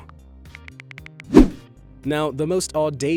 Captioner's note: phone clicking